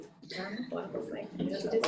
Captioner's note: board member faintly speaking